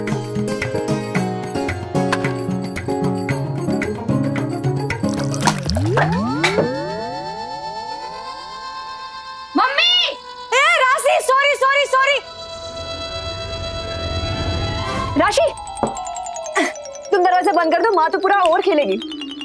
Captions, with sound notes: [thudding] - Mom! - Rashi, I'm sorry! Rashi! You may close the door as mother will bat for the complete over.